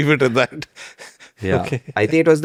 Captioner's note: laughs